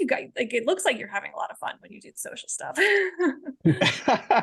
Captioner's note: laughing